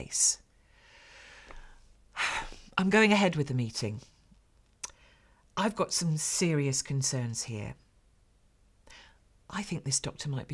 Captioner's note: sighs